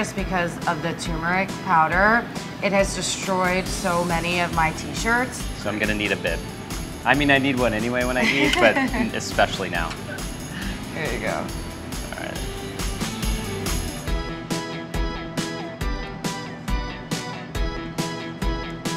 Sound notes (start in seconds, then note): 8.2 chuckles; 13.5 upbeat music